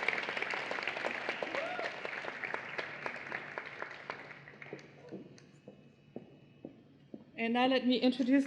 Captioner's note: cheering and Applause